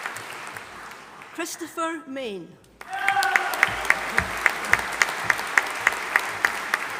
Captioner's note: audience applauding